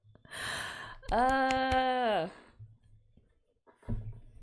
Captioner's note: claps